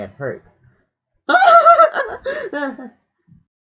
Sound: all laughing

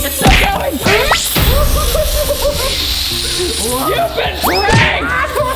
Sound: spray sound

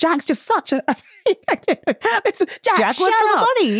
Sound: laughs

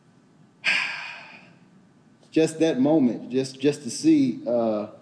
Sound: sighs

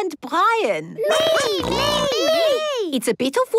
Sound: snorting

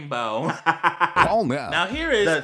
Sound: cackling

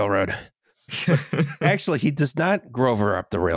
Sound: laughs

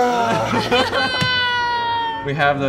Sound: all laughing

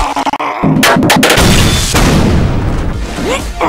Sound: glitched grunt of pain; glitched metal banging sounds; explosions and electricity sounds; grunt, gasp

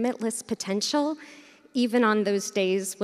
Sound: none

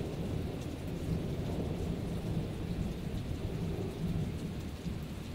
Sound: wind blowing through leaves

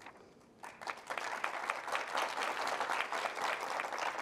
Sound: audience applause

